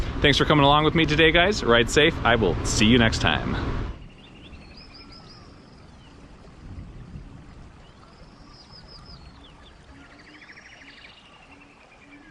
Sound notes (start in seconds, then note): 5.4 birds chirping